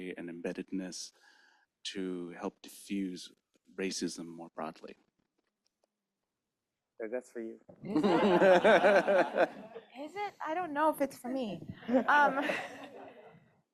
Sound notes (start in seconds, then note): 7.8 laughter